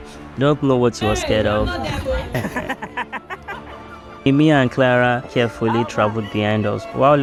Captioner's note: laughs